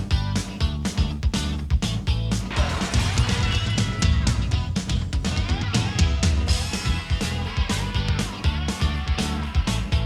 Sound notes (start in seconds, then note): 2.5 screen crackling